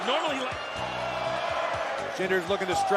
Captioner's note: crowd